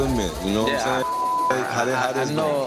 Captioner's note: beep